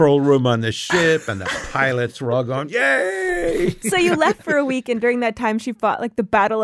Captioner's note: laughs